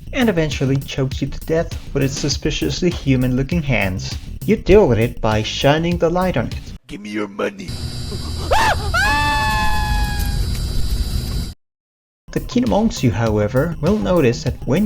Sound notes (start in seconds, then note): 7.7 bzzzzzzzzzzzzzzzzzzzt